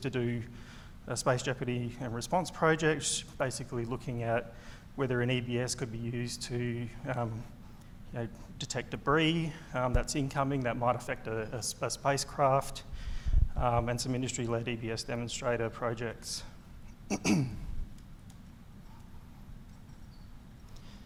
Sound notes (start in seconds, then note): 17.0 clears throat